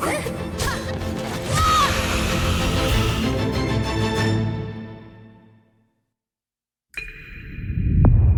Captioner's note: grunts and thuds